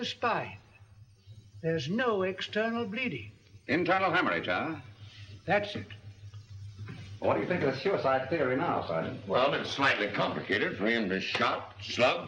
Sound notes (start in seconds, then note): none